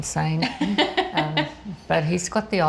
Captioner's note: laughs